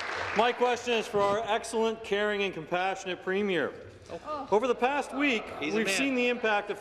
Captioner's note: applause